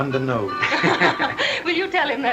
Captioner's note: they laugh